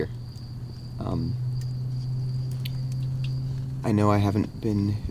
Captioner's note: zumbido del motor